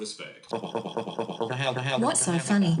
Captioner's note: laughter